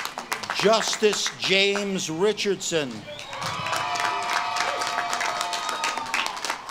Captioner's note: audience claps and cheers